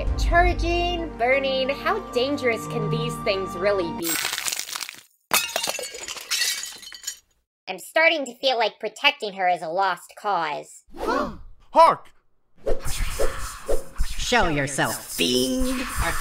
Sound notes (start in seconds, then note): 4.0 shattering